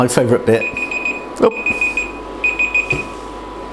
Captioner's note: timer beeps